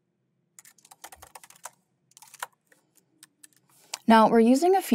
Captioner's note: keyboard clacking continues